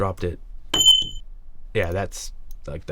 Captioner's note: bullet casing pinging